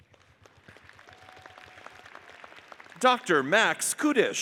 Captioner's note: audience applauds